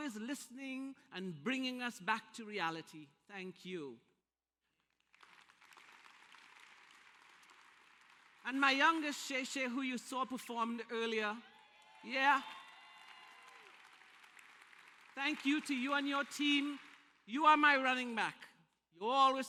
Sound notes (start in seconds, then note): 4.7 applause; 11.4 applause and cheers